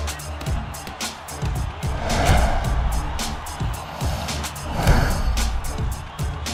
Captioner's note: punches echoing